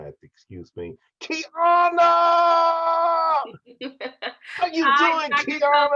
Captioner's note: laughter